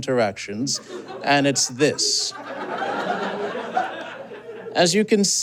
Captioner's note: audience giggles